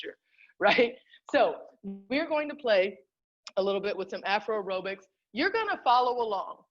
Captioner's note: laughter